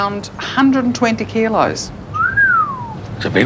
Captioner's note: whistles